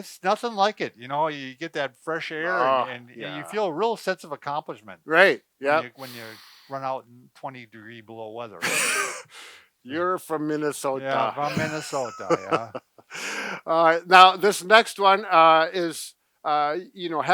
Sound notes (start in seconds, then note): 8.6 laughing; 12.9 laughing